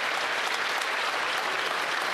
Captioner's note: applause